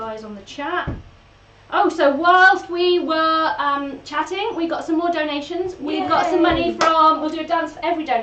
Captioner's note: cheers